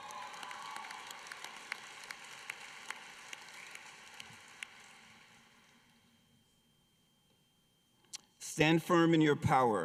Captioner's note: applause